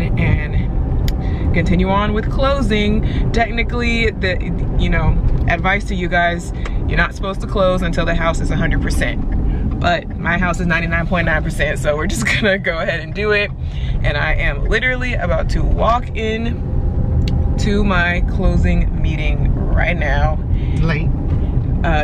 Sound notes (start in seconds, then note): 9.1 turn signal clicking; 12.4 chuckles